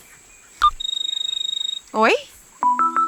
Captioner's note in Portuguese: Celular tocando